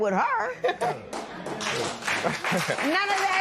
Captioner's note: applause